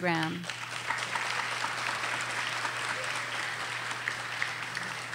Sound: audience applauding

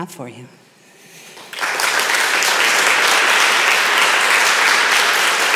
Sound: applause

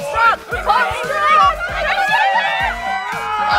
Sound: cheering

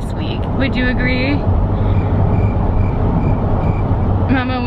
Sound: cricket noises

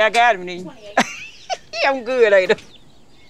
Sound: laughs

